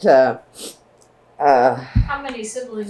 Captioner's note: laughs